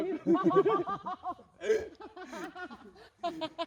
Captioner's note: laughter